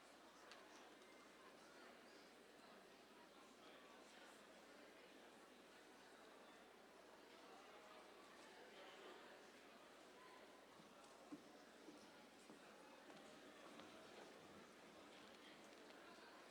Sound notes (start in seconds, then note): none